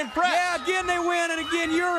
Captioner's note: crowd cheering